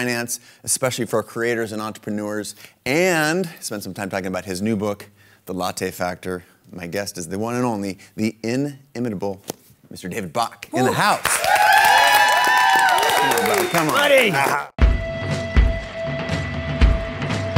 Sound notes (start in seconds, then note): 10.8 audience applauding and cheering; 14.8 upbeat music